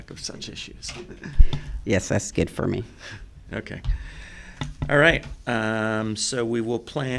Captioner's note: laughter